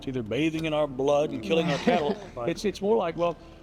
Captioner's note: chuckles